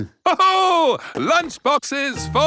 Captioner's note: laughs